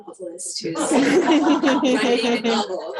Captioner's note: laughing